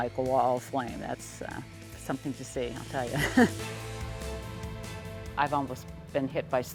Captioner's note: laughing